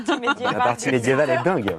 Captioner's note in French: rires